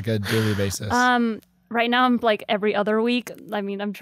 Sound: sighs

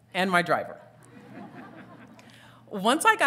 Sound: audience titters

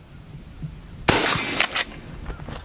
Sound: gun fires

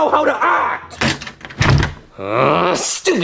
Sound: door bangs; door clicks

